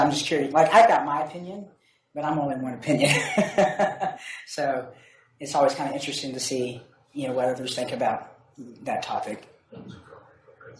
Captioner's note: laughs